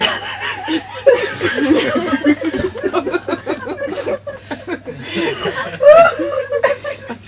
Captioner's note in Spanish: continúan risas descontroladas